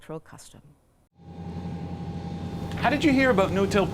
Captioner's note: machinery whirring